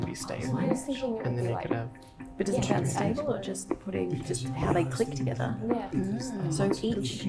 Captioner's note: teams chattering